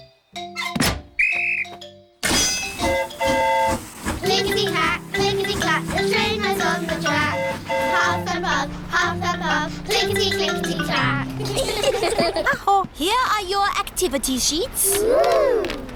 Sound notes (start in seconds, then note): 1.1 blows whistle; 1.2 train horn toots; 11.3 all giggle